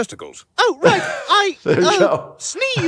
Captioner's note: laughs